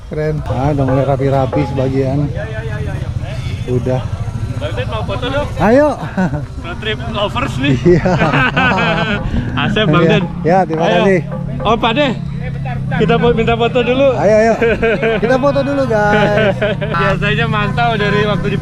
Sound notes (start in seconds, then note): 7.4 laughs